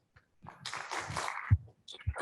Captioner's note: applause